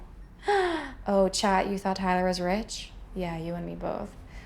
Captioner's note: gasps